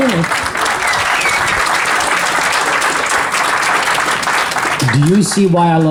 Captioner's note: audience approval 'oh yeah' and clapping